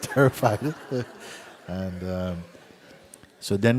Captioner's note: laughter